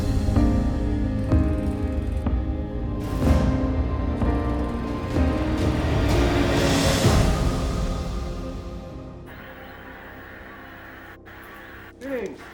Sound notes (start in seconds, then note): 0.1 inspirational music playing; 9.2 TV static